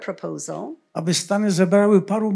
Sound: foreign language

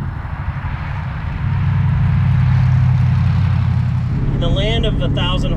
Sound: engine purring

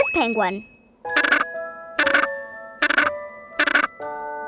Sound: squawking

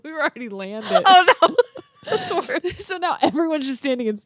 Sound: laughs

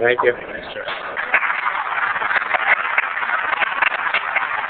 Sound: applause

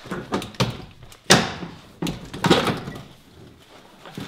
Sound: metallic clattering; banging

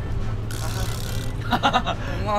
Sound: haha

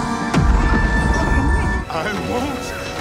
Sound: bomb explodes

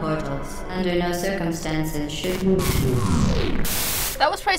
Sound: harsh static; static, GLaDOs stops talking

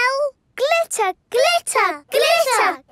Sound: chanting

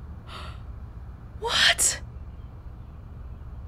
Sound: whispers

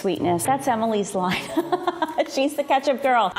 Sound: laughs

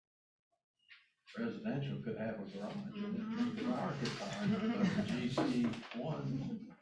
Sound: laughter

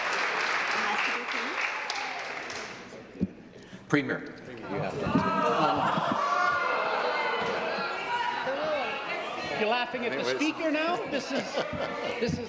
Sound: applause

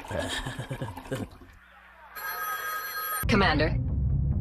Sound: laughing stupidly; phone rings

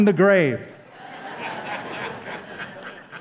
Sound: laughter

